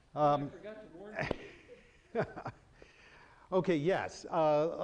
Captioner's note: chuckling